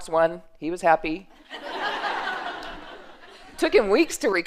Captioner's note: laughter